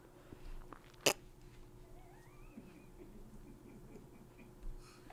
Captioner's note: chuckles